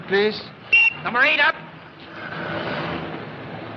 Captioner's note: whistle Blows